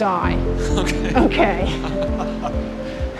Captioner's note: both laugh